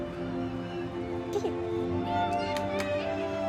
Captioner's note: children chattering